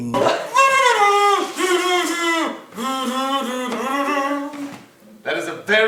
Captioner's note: human making trombone sounds